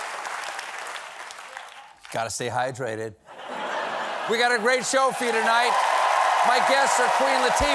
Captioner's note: cheers and applause